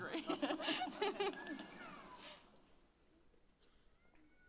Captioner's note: laughs